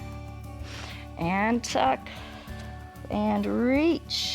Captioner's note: exhales